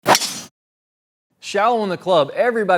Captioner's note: metal swishing